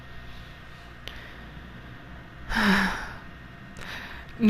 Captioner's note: noise of guilt